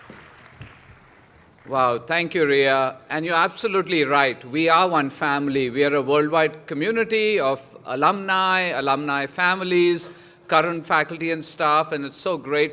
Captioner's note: applause